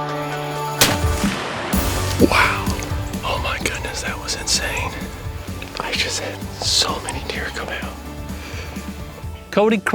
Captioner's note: whispering